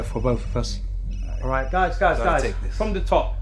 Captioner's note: phone ringing